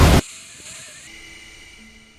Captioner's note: static and muffled horse neigh